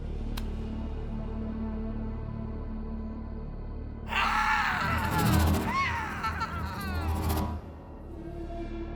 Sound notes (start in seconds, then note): 4.0 person screaming